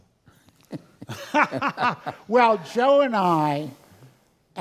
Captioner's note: laugh